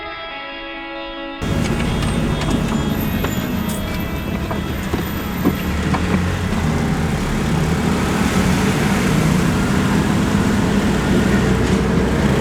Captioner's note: road noise